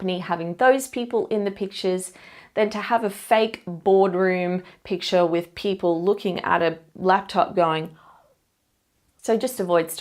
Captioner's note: gasp